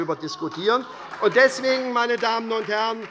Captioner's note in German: Beifall bei Abgeordneten der SPD - Zurufe von der CDU